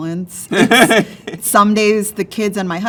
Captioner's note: laughs